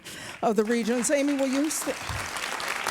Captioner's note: crowd clapping